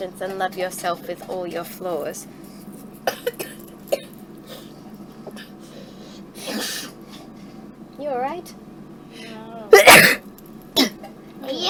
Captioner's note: sneeze